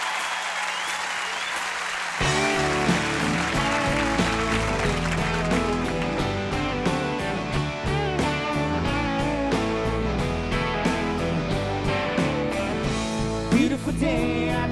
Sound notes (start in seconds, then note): 4.4 cheers and applause